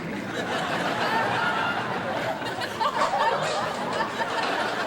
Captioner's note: audience laughs